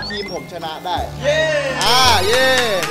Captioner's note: cheering; applauding